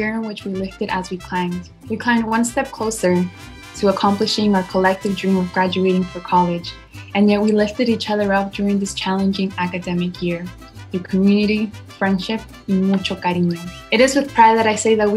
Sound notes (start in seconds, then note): 12.3 speaks in foreign language